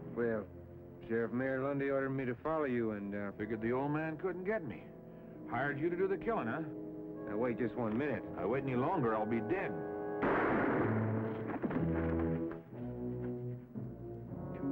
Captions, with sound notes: - Well Sheriff, Mayor Lundy ordered me to follow you, and-- - Figured the old man couldn't get me. Hired you to do the killing, huh? - Now wait just one minute. - If I wait any longer, I'll be dead. (gun firing) (dramatic music)